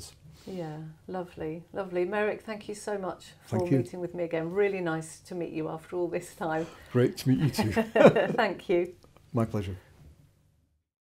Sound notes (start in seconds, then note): 7.5 both laughing